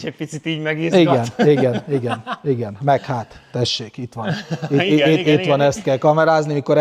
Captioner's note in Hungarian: nevetés